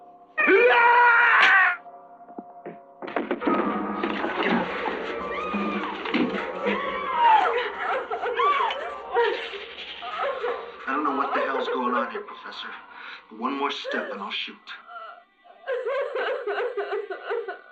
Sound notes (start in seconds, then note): 2.7 screaming; 15.6 laughter